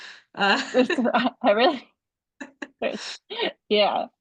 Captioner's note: chuckles